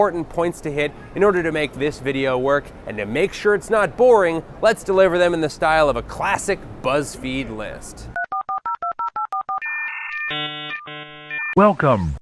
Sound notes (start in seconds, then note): 8.1 dial-up modem connection sounds